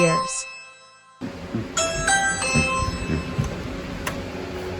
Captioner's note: ring doorbell plays